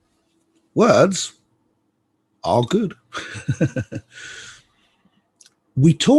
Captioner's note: laughs